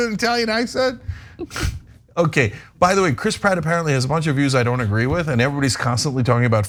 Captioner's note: laugh